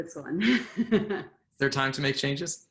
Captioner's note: laughs